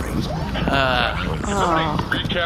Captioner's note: uncomfortable noises from the crew